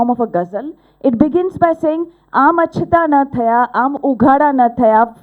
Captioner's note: non-english speech; non-english speech